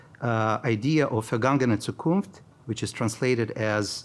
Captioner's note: speaking in foreign language